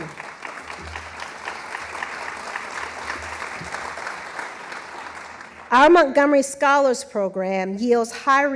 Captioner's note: applause